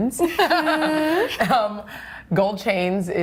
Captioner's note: laughter